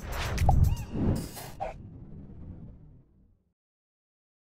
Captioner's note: racket whizzing through air